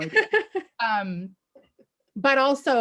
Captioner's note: laughs